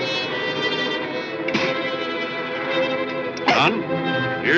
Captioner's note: spits